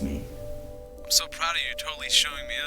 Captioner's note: Greg's Voice through Phone